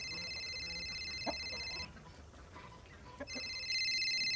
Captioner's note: cell phone rings; chickens cluck; cell phone rings